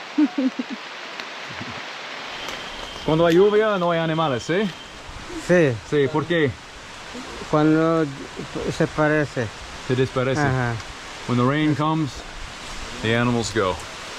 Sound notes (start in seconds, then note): 0.1 chuckles; 3.1 speaking in foreign language